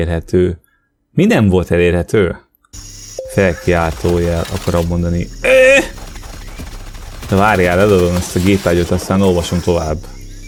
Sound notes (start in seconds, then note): 5.5 audio depiction of an exclamation point as a grunt